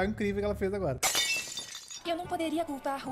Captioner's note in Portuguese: vidro quebrando